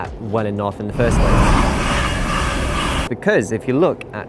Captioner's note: fast train passing